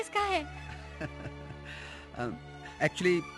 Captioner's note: chuckling